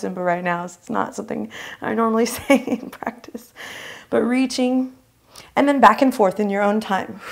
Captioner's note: laughs